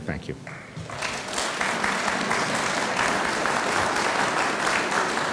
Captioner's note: audience applauds